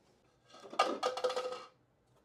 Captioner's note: clattering